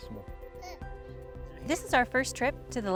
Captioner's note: baby babbles